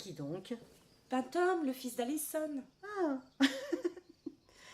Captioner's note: giggling